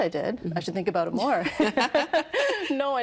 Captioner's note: laughing